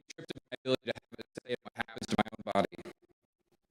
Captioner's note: none